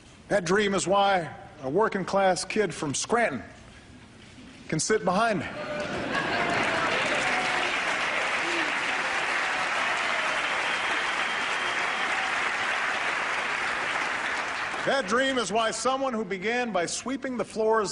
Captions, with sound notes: That dream is why a working-class kid from Scranton can sit behind me. (Laughter and Applause) That dream is why someone who began by sweeping the floors